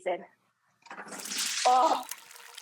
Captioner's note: potatoes sizzling